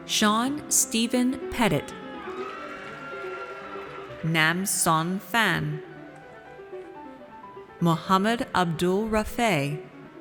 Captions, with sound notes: Sean Stephen Pettit. (audience cheers) Nam Son Phan. Mohammed Abdul Rafay.